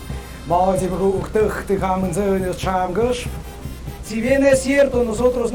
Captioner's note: habla en idioma extranjero